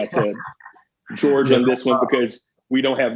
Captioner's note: laughing